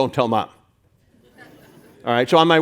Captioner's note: audience laughing